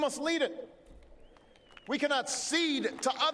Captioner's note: applause